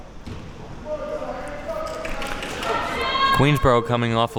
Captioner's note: spectators shouting